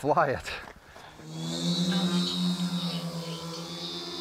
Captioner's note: engine whirring